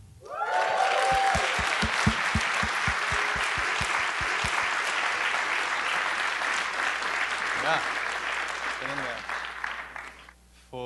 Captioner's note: applause